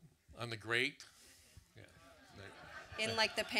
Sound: audience laughs

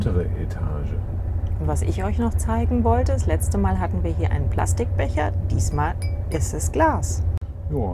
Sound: pling, pling

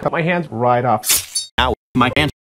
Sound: slice sound

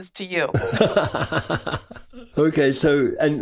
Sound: laughs

